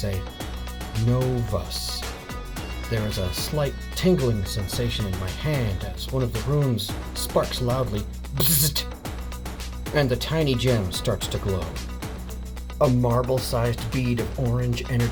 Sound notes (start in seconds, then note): 8.4 bzzhhddt